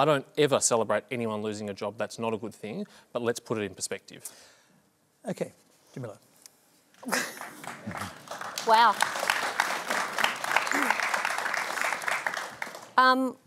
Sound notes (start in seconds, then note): 7.0 laughs; 7.0 scattered applause